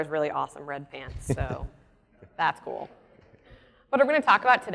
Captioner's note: laughs